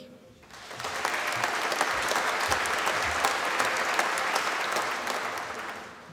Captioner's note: applause